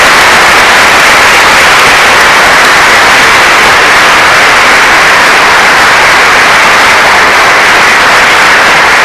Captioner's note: applause